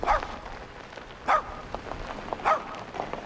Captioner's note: dog barking